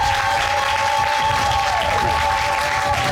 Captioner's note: audience cheers and applauds